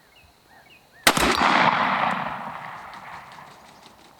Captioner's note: gunshot